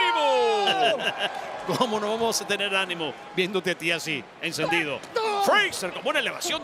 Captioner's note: laugh